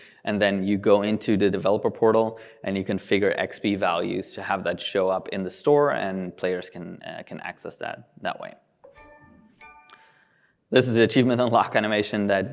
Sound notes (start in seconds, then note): 8.8 tones